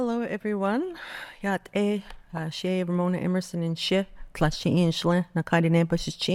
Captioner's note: speaking Navajo